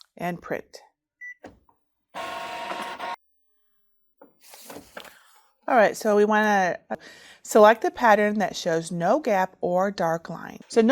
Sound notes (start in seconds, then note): 2.1 printer beeps; 2.1 printer buzzes